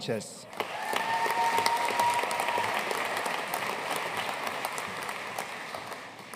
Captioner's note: audience cheering and applauding